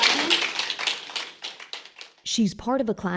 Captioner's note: audience applauding